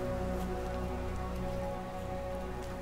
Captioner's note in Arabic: مطر خفيف